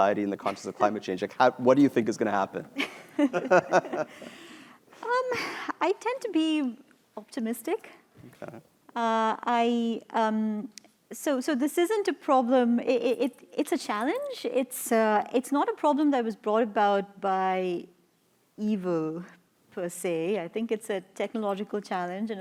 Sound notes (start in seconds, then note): 2.7 laughter